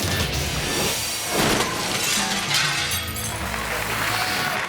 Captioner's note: energetic music; glass shattering; audience applause